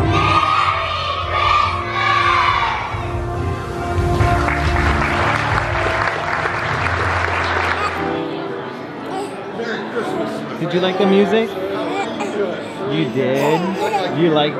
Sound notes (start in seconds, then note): 4.5 audience cheers; 9.0 baby babbles